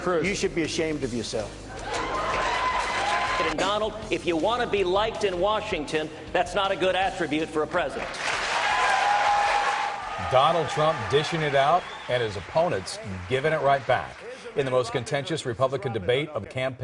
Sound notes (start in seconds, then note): 14.9 cheers and applause